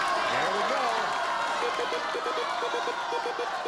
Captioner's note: audience urging